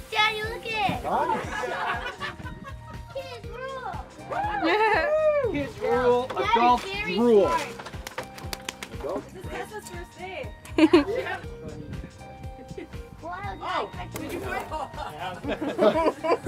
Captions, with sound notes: - Daddy, lookit! - Nice. - Kids rule! (all cheering) - Kids rule, adults drool. - Dad, you're very smart. - This is Tessa's first day. - Yeah! (all laughing)